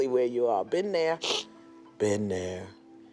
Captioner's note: sniffles